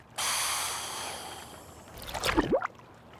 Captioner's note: <i> air hissing</i>